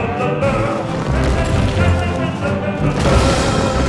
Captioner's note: elephant trumpeting; exploding